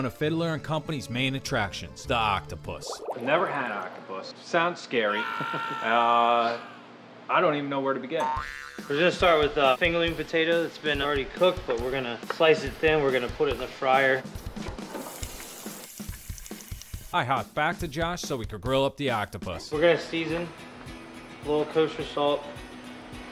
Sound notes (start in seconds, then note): 5.0 screaming; 5.1 laughing